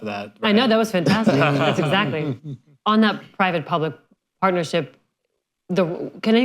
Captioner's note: laughter